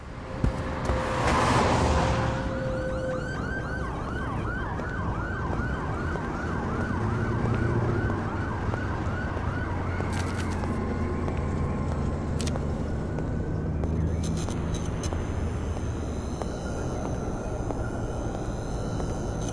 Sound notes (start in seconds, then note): 1.6 sirens